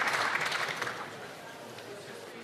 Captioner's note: some Applause